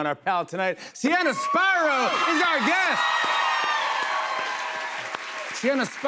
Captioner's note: cheers and applause